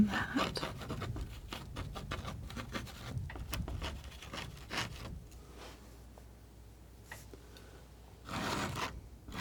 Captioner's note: scratching